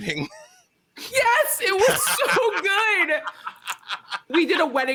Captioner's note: laughing